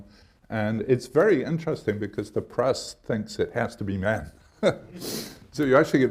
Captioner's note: laughs